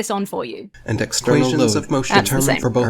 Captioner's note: fragments of rebuttals play rapidly